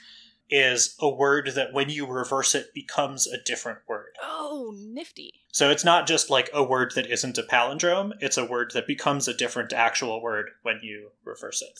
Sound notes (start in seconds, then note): none